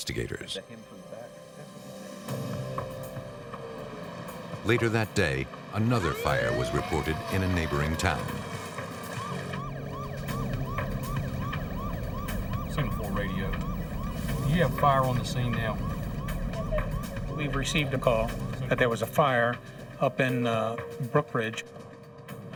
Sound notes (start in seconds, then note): 8.7 siren